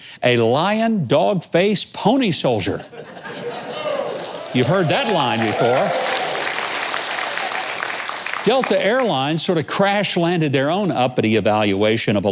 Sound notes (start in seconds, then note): 3.4 audience cheering